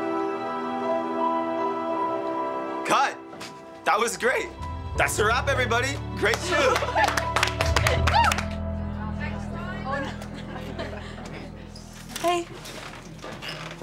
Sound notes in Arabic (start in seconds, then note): 6.0 الطلاب يصفقون ويهللون; 8.9 يتحدث الطلاب